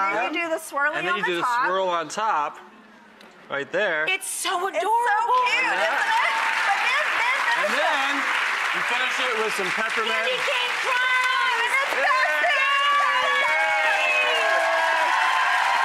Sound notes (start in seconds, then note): 6.5 applause; 12.4 cheering